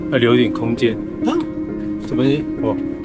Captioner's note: an excited squeal